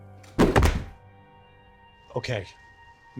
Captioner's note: bang